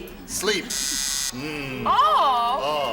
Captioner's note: buzzer